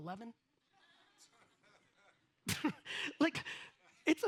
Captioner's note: audience laughs